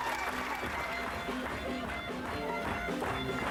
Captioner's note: applause